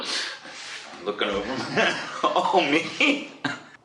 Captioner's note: laughs